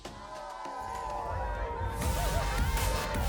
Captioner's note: crowd cheering; upbeat music